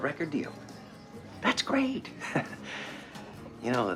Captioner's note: chuckles